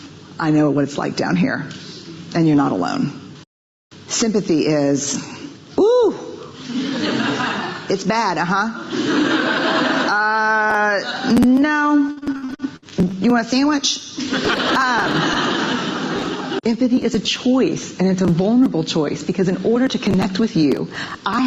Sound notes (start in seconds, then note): 6.6 audience laughing; 14.2 audience laughing